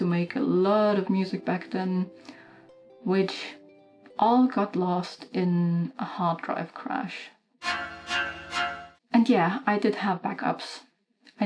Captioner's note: spooky sound